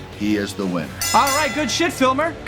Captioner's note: bell rings